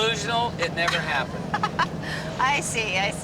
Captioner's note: laughs